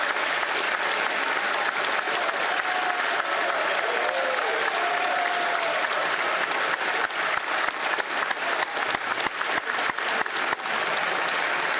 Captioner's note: applause